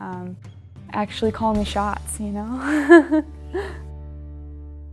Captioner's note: laughs